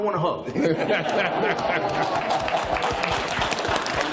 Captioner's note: applause